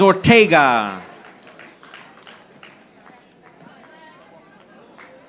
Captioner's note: audience applauding